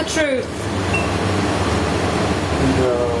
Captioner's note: device beeping